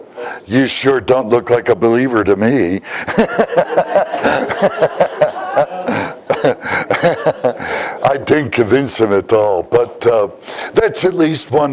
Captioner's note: Смех